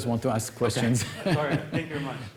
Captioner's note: laughter